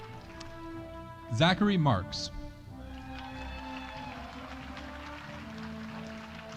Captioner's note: audience applauding